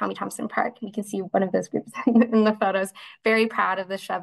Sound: laughs

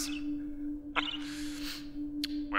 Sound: sniff

